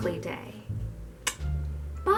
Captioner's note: kiss